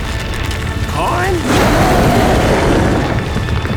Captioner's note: roar